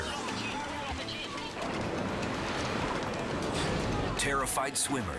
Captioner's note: waves crashing